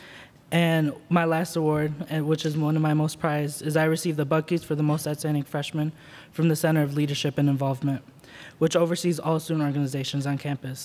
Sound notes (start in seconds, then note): none